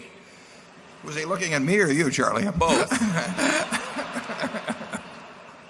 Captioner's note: laughter